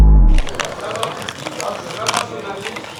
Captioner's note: distant vocal background